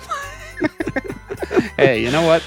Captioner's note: laughing